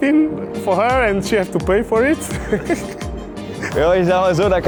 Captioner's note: laughter